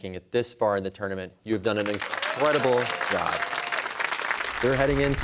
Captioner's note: cheers and applause